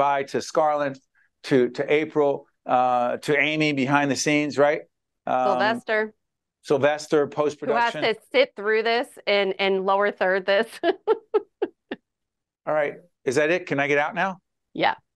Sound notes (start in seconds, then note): 10.6 laughing